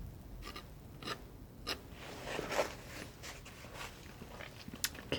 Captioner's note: scratching